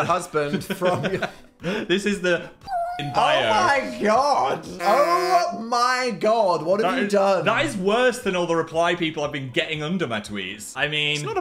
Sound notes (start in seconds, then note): 2.1 Phil laughs; 2.7 cat meows; 4.9 horn honking